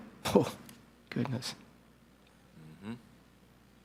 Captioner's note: scoffs